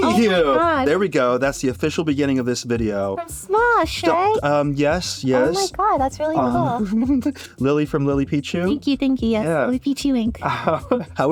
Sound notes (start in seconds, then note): 6.3 giggles; 10.4 laughs